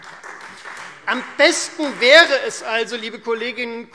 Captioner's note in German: Beifall Freie Demokraten